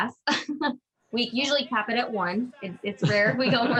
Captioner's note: laughs